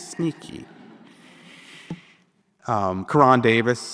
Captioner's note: audience laughing